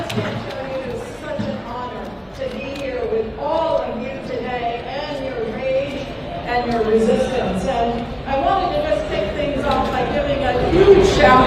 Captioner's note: applause